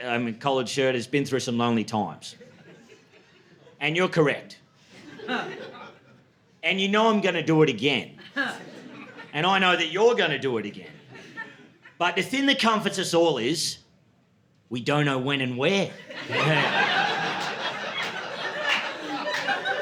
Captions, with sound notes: I mean, collared shirt has been through some lonely times. And you're correct. [LAUGHTER] And you know I'm going to do it again. [LAUGHTER] And I know that you're going to do it again. But if in the comforts us all is, we don't know when and where... [LAUGHTER]